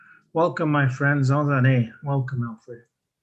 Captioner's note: speaks in foreign language